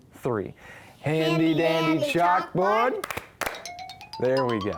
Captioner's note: hands clapping